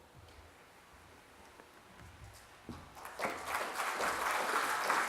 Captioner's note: applause